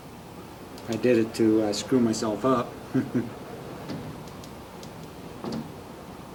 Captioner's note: chuckling unenthusiastically